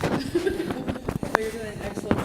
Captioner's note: laughter